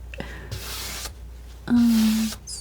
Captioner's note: scratching